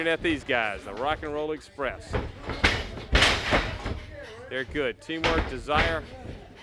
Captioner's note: crowd chatter